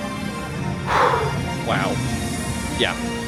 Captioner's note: sighs